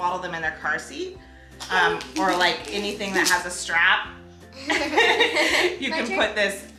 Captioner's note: laughs